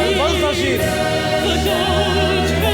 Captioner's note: performer speaking Arabic